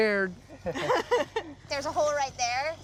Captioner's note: laughter